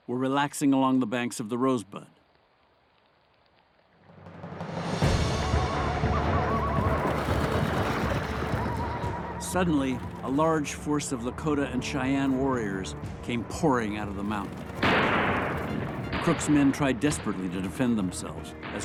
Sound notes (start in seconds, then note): 14.7 rifle shots